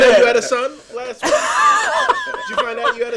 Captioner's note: laughing